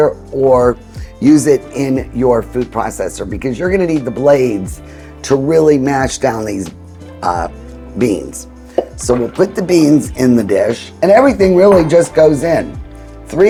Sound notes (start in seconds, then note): 9.1 beans shuffling; 12.5 bowl clinking